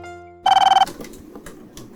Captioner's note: phone Ringing